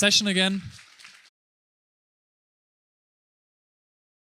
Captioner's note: applauding